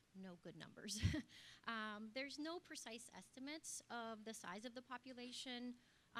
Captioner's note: laugh